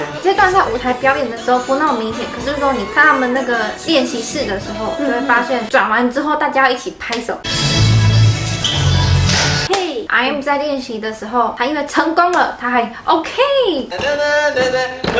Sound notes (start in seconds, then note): 9.3 clap!